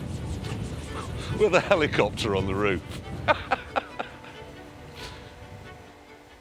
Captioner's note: laughs